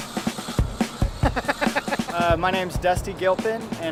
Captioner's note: energetic drumming; laughing